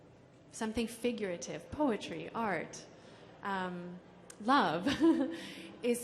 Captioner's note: laughs